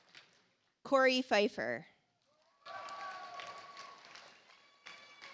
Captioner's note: audience applauds